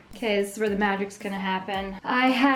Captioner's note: none